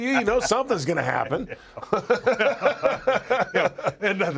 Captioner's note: laugh